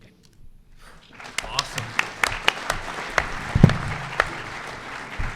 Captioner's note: audience applauds